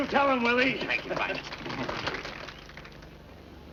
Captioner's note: crowd cheering